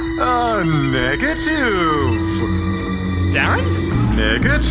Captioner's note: ghostly wailing